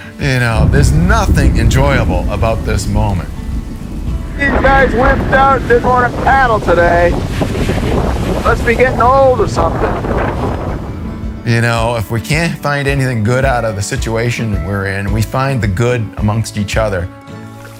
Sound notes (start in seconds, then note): 3.6 shouting; 7.3 wind roaring; 8.3 shouting